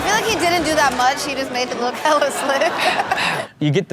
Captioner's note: laughs